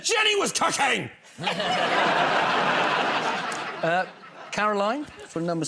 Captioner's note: laughter